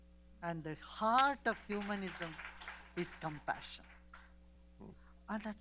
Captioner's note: applause